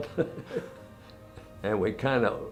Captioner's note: laughes